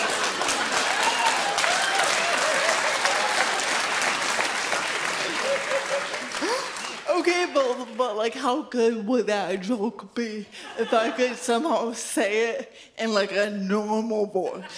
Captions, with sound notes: (audience continues cheering) Okay, but like, how good would that joke be if I could somehow say it in like, a normal voice?